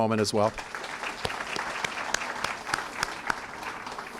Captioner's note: applause